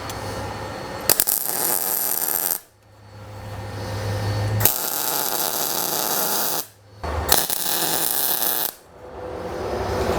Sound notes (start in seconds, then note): 1.4 torch buzzing; 7.1 torch buzzing